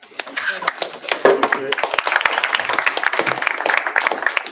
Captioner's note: applause